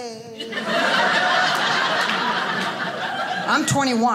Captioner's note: audience laughing